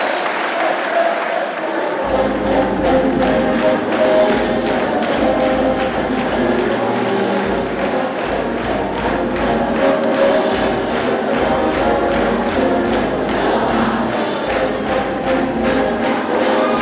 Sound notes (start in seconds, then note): 10.8 clapping; 13.5 crowd